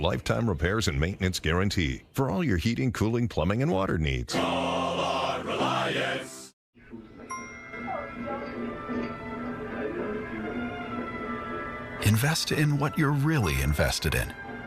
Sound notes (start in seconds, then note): 6.8 faint TV audio; 6.9 phone notification